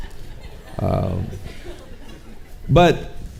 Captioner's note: audience chuckling